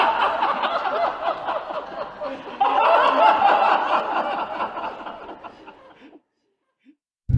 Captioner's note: laughs